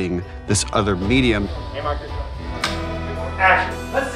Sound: clapboard cracks

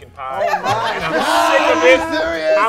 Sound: group laughs

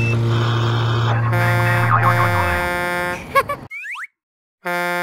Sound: horn blowing; horn honks

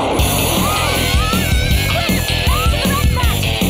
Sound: lions roaring

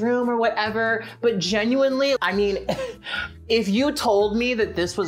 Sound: chuckles

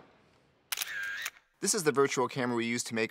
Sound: camera shutter clicks

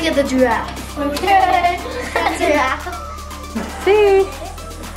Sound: laughs

